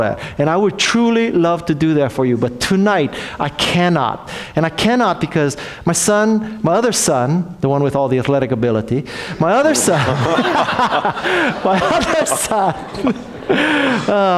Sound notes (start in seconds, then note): 9.6 laughs